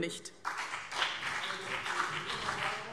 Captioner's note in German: Beifall BÜNDNIS 90/DIE GRÜNEN und CDU